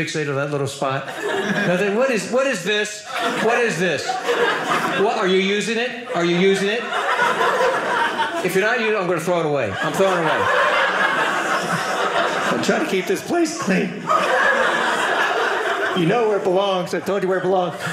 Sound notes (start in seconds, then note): 10.4 audience laughing; 13.8 audience laughing